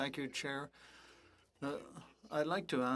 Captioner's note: speaking French